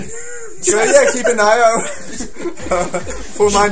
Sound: chuckling

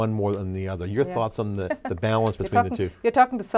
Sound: laughs

